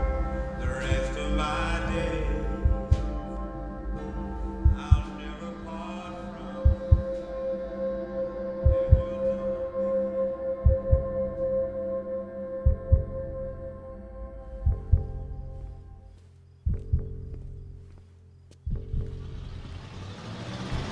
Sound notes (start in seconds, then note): 7.2 heart beating; 14.5 music fades